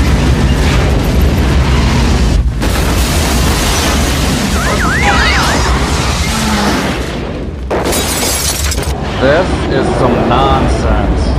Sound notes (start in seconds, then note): 0.4 bang; 1.2 engine revs; 2.3 crash; 4.5 car alarm chirps; 4.8 both groan; 5.3 squeak